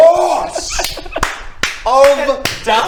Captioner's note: patronising applause